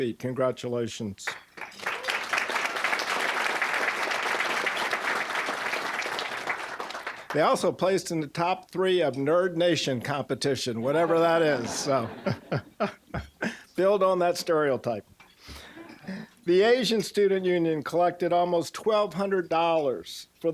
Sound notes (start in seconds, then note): 1.2 applause; 10.8 audience laughing; 10.8 laughing